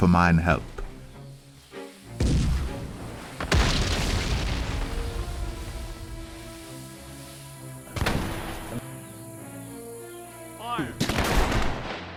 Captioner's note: shots